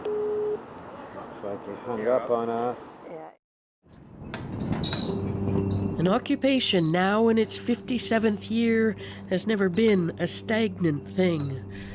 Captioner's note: busy signal